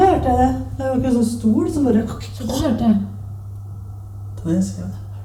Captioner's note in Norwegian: etterligner lyd